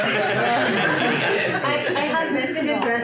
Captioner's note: audience laughter drowns out speech